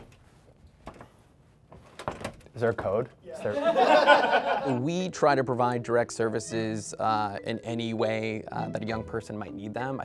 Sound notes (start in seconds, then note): 3.4 laughter